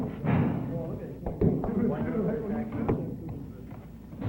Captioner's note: tool banging